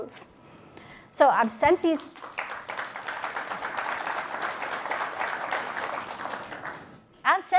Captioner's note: applause